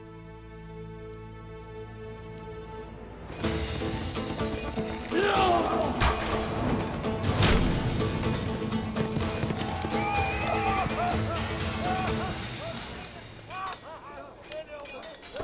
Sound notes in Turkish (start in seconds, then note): 3.5 Müzik - Aksiyon; 13.4 Bağrışmalar ve kılıç sesleri